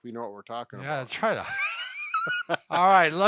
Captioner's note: laughs